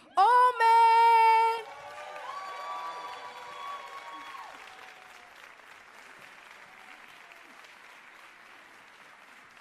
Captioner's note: ~cheers and applause~